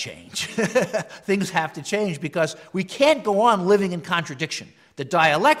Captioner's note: laugh